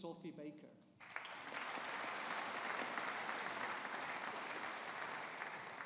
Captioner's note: audience applauding